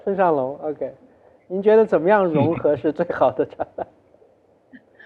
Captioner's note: laughs